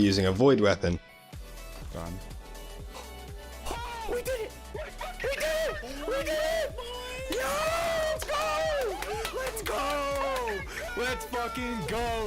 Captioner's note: team celebrating